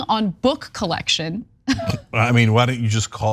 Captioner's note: laugh